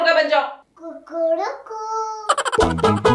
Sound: chicken sound

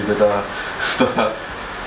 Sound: chuckles

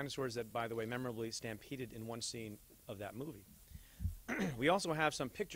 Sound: clears throat

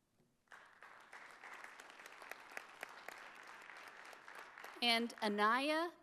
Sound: audience applauding

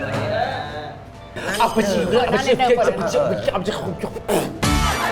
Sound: chanting gibberish

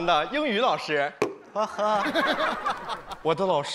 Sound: laughing

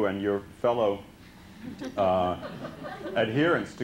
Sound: laughter

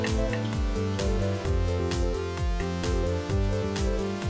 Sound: mouse clicking

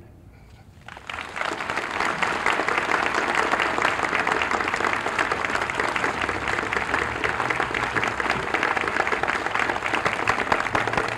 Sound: applause

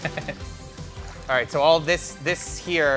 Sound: water splashes

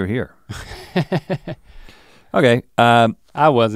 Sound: chuckles

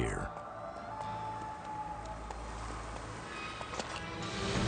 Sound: wolf howling

